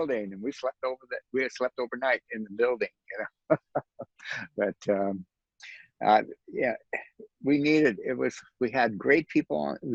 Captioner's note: laughs